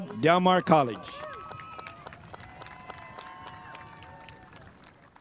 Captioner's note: spectators applauding